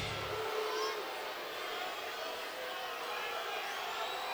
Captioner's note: audience jeers; audience chanting